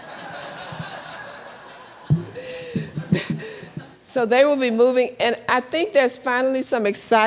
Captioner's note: laughter